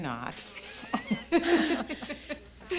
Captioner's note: all chuckling